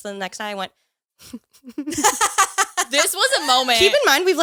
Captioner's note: all laughing